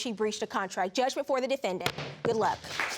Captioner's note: bangs gavel